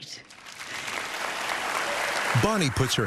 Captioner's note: cheering and applause